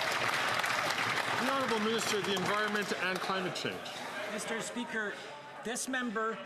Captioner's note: some Applause